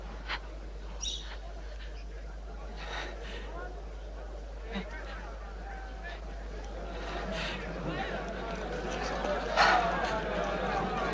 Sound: crowd noise

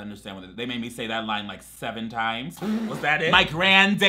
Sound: laughs

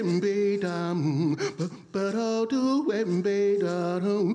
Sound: vocal beat making

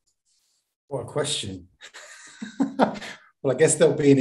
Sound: laughs

